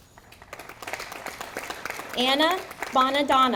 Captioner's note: audience applauding